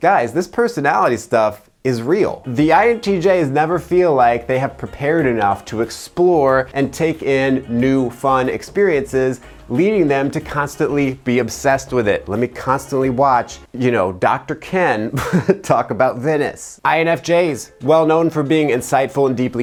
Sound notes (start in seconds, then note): 15.1 chuckles